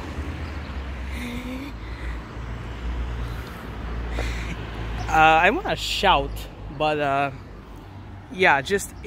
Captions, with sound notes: (bReAtH) (breath again) Uhh, I wanna shout. But uh... Yeah, just